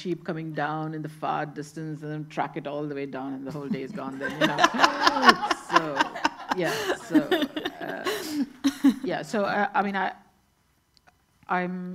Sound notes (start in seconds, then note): 3.6 everyone laughing